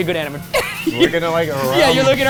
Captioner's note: laughing